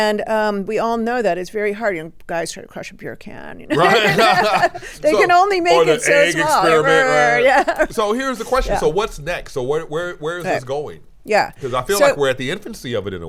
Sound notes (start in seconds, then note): 3.7 everyone laughs